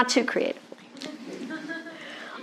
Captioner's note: laughter